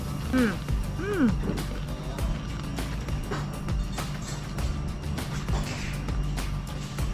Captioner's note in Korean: 주변에서 들리는 삐~ 소리는 태국 매미소리